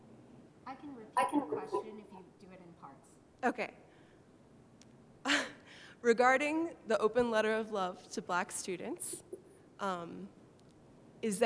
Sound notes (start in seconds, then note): 3.7 voiceover